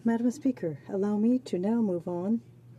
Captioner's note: speaking French